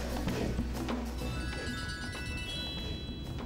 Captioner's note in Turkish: Telefon çalıyor